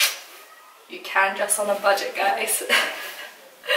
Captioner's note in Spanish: risas